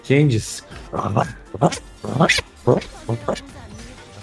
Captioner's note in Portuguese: latidos